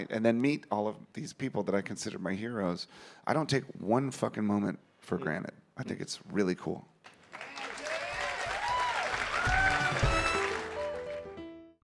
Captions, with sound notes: and then meet all of these people that I consider my heroes. I don't take one fucking moment for granted. I think it's really cool. [audience clapping] [audience cheering]